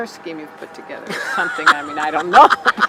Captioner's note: laughing